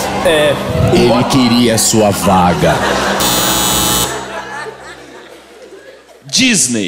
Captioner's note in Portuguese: campainha